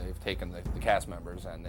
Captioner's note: none